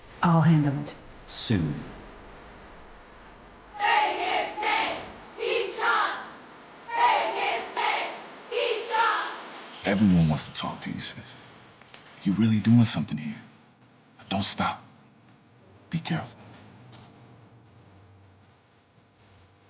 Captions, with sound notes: - I'll handle it. - Soon. - [Crowd] Say his name, Keyshawn! Say his name, Keyshawn! - Everyone wants to talk to you, sis. You really doing something here. Don't stop, but be careful.